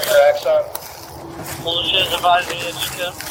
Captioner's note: radio chatter